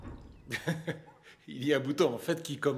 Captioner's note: laughing